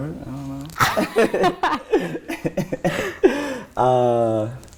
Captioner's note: both laugh